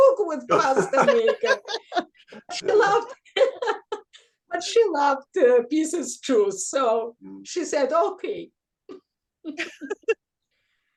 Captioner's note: laughs